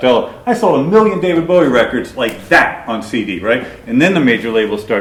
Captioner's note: clicks fingers